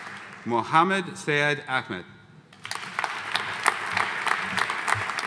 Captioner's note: audience applauding